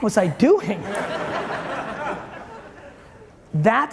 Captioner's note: audience chuckling